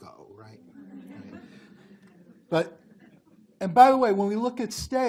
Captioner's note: group laughs